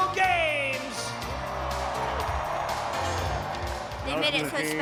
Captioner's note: cheering